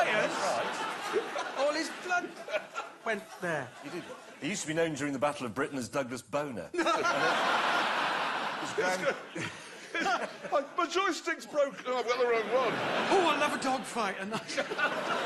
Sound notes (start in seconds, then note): 6.7 laughter